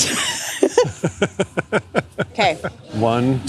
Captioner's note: laughter